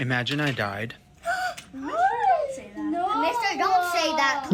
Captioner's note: kids gasps